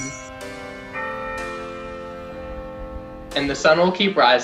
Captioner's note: bells ringing